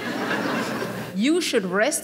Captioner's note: audience laughing